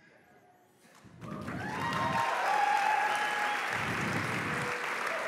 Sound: applause

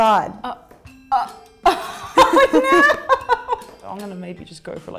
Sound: laughing

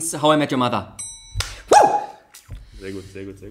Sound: claps

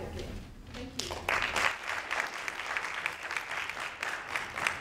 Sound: audience claps

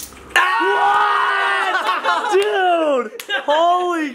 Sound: cheering

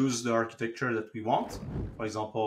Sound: graphics whooshing

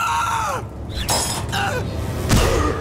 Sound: grunting

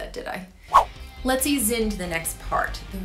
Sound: swooshing

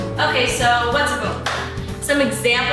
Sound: claps

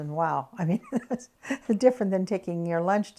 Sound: laughs

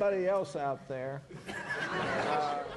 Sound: laughter

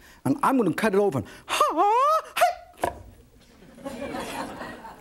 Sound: audience laughs

